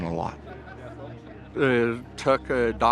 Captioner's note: people chattering and laughing